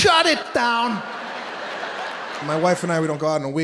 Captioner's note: audience laughing